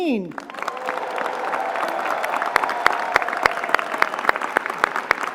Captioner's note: applause